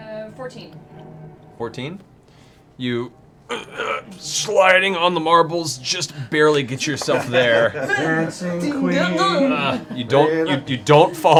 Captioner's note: grunting